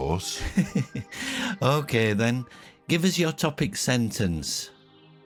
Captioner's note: laughs